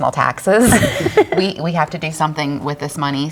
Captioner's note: all laughing